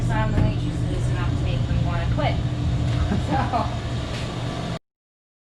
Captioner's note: laughing